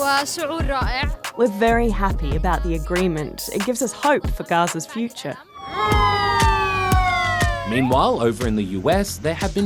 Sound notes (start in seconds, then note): 5.5 siren blares